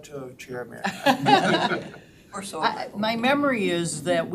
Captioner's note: all laughing